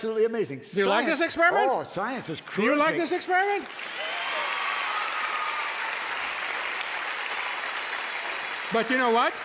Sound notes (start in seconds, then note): 3.3 cheers and applause